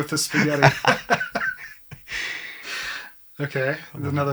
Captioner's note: both laughing